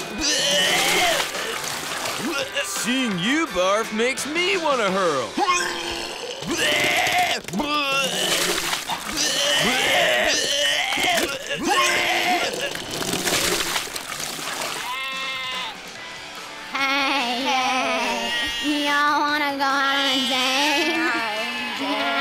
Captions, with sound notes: [Barfing] Seeing you barf makes me wanna hurl. [Barfing] Heyyyyy. Y'all wanna go out on a date?